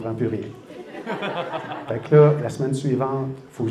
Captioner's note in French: rires